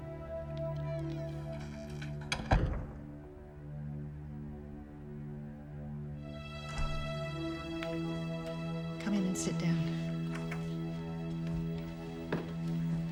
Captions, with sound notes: (lock clicks) - Come in and sit down.